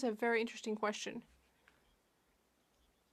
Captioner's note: speaking French